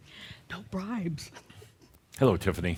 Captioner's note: chuckling softly